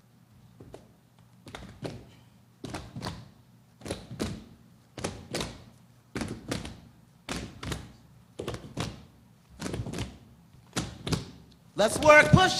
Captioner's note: rhythmic clapping